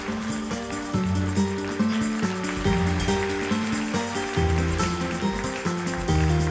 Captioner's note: applause